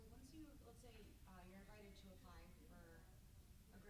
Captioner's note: stammers